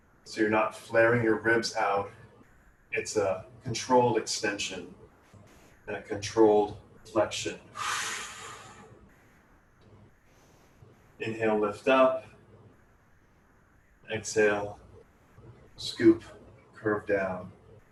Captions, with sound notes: so you're not flaring your ribs out. It's a controlled extension and a controlled flexion. (Exhales) Inhale lift up, exhale, scoop, curve down.